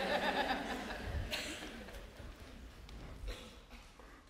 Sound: laughter

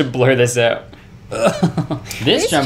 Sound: laughing

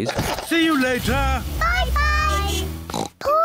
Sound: horn beeps; oinks

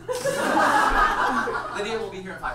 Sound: audience laughs

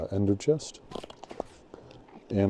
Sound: chirps and pops

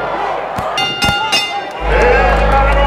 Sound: audience cheering; bell ringing; audience applauding

